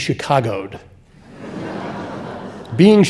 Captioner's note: audience laughing